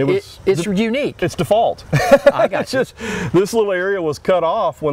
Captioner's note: laughter